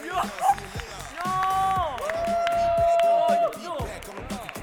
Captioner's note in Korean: 감탄